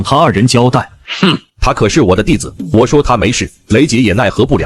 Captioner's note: snorts